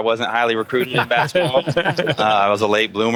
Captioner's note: laughing